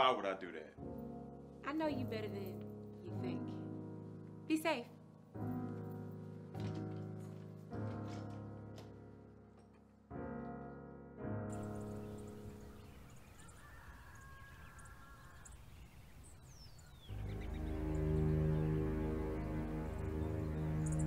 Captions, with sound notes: - I know you better than you think. Be safe. (birds chirping) (gentle music)